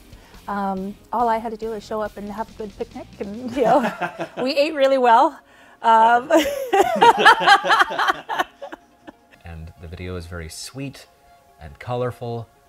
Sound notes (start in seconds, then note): 6.2 laughs